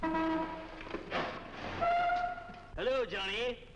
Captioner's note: horn honks